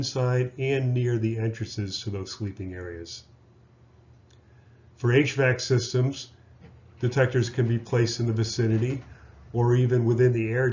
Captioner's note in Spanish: hvac